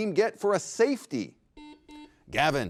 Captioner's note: buzzer rings